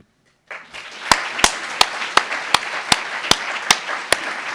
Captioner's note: applauds